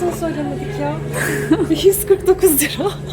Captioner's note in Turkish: gülüşmeler